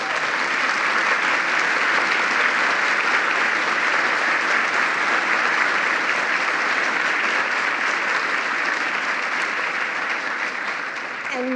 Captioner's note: applause